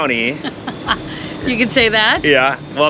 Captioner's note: laughing